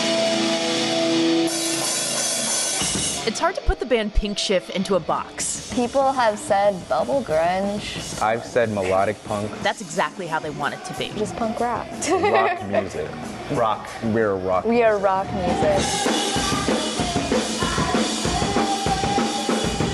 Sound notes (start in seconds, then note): 12.0 laughing; 17.1 live band music